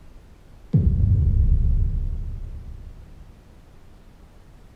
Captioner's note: booming sound